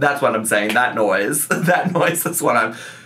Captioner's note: laughs